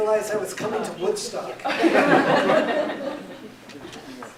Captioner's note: laughter